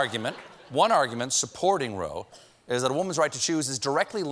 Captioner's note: laughter